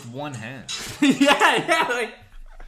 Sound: laughs

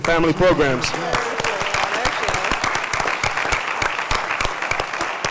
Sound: applause

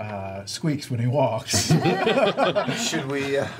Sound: all laugh

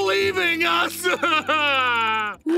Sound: sobbing

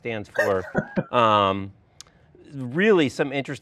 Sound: laughing

